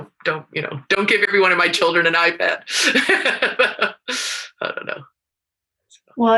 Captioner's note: laughs